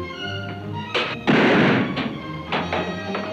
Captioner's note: gun bangs; exciting music